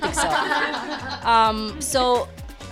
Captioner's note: laughing